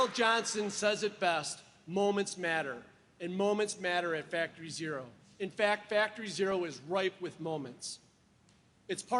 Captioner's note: applause